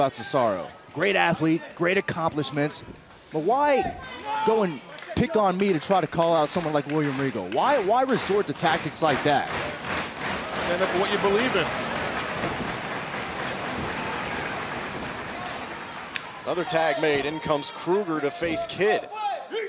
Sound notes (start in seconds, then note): 11.5 crowd cheering